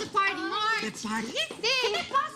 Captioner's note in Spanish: Hablan al unísono